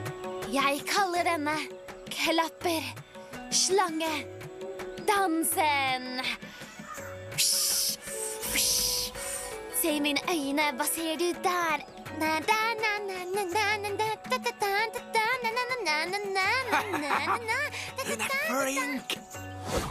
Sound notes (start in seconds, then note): 7.3 imitating rattlesnake; 11.8 singing